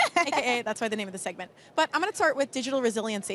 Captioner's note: laughter